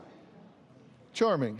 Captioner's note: audience murmurs